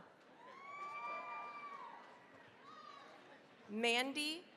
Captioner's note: cheering, applause